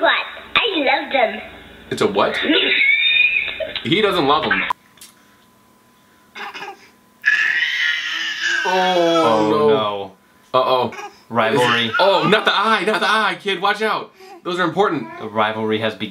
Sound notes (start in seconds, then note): 8.9 cooing and crying